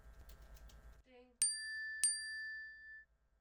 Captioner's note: phone dings